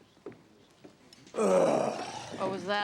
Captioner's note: detective groans